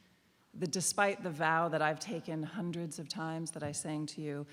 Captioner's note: none